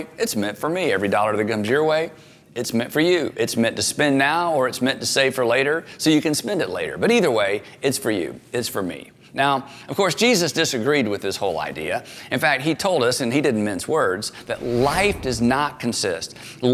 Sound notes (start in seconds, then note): none